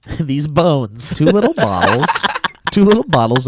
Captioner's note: laughs